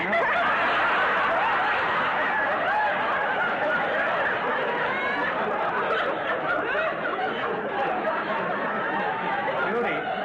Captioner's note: audience laughter